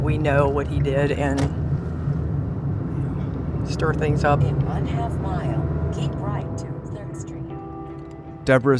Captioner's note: GPS sound